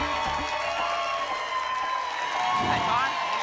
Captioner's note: applause and cheering cont